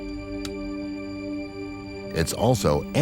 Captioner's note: switch clicks